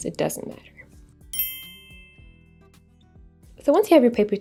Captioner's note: twinkle tone